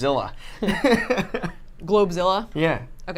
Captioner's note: both laugh